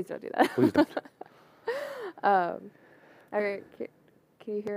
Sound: laughter

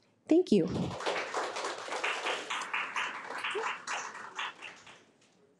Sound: audience applauds

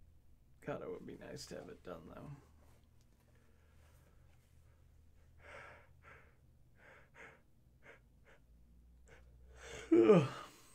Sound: yawns

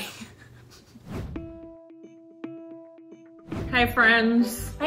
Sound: laughs; suspenseful music; air whooshing

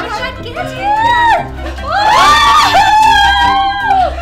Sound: scream!

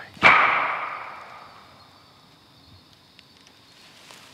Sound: wood knock

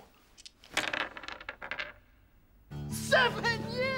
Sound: dice clattering

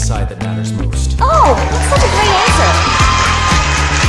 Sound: audience cheers

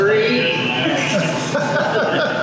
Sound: laughing

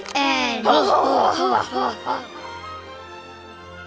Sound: laughing

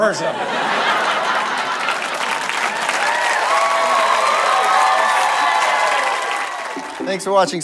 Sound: audience laughter and applause

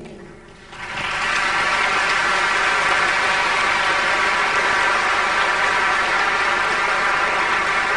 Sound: applause

